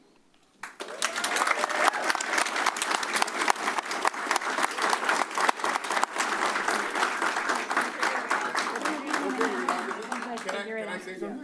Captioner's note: applause